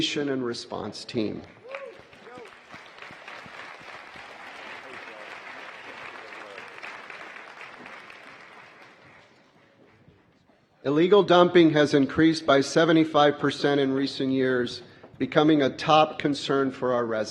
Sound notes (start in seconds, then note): 6.6 applause